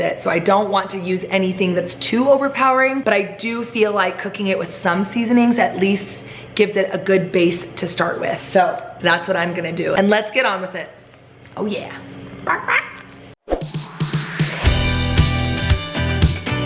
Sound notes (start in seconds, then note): 12.4 clucking